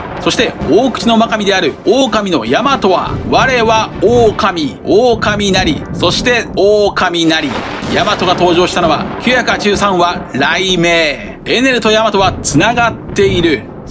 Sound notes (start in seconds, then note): 6.6 great thunder